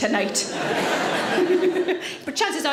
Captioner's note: audience laughs